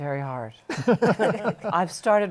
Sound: laughter

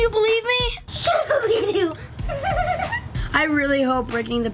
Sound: laughing

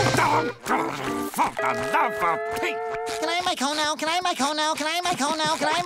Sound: grumbling

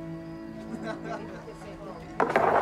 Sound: laughing

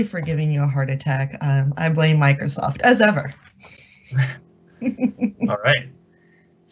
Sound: laughing

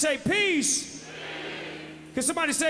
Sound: crowd

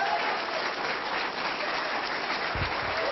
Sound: applause

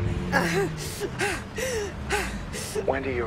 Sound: Wendy gasping

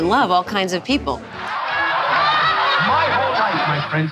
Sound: laughing

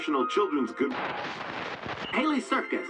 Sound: radio static

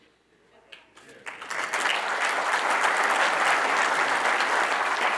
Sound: audience applauding

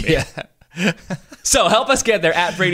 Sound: laughter

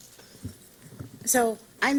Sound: silence

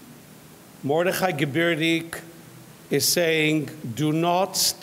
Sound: speaks in foreign language

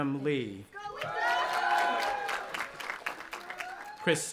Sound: audience applauding and cheering

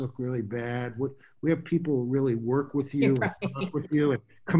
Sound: laughs

